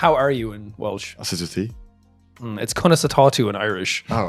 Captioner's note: speaks Welsh